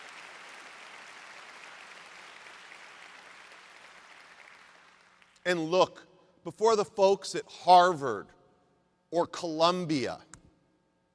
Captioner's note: applause